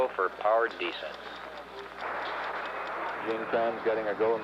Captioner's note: stopwatch ticking